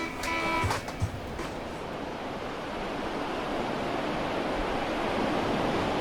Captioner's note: sound of waves crashing